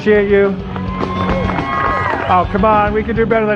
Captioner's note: cheers